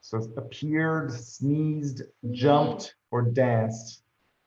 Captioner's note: none